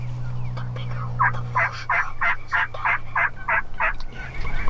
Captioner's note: hunters whispering; bird squawking